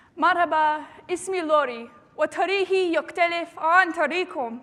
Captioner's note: speaking arabic